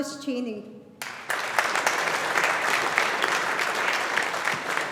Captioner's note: audience applauding